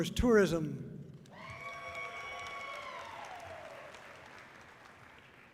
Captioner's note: audience cheering loudly